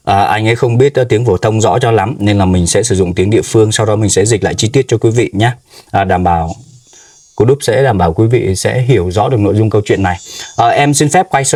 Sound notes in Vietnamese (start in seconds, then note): 5.6 khịt mũi